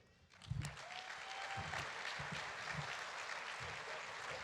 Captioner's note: audience applauding